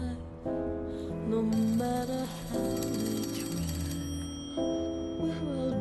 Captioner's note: phone ringing